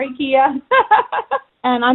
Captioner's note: laughs